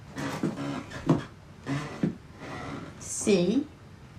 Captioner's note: floor creaking